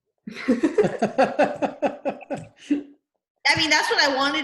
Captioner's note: laughing